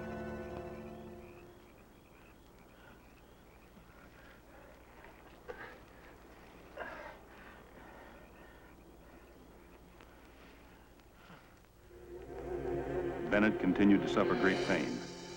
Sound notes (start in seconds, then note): 3.7 Slug panting; 11.8 intense music